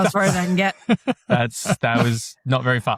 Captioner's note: laughs